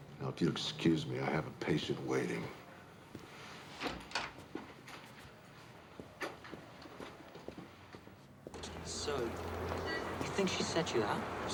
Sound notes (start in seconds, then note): 3.8 door opens